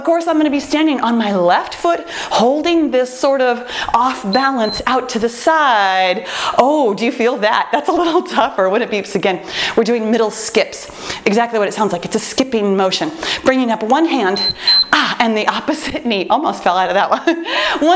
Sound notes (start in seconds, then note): 4.1 timer beeps; 14.2 timer beeps